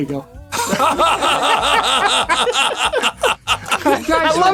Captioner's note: laughter